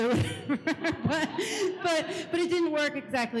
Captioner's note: laughs